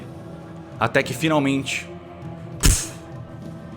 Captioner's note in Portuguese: puff